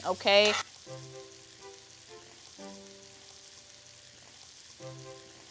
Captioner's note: onions sizzling